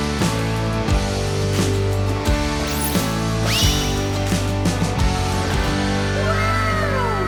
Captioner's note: lively music; ball squeaking